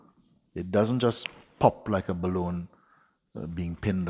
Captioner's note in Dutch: knipt vingers